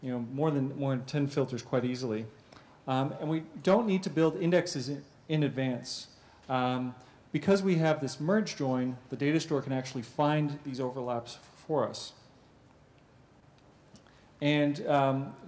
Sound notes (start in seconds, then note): 11.9 pause